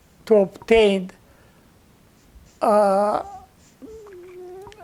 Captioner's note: pauses 6 seconds